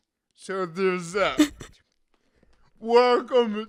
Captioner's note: chuckles